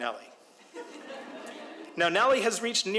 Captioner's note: audience laughs